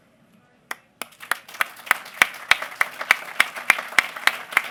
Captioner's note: applause